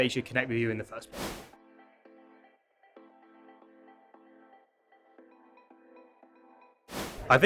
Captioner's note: abrupt swooshing; upbeat music; abrupt swooshing